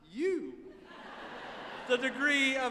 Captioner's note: audience laughing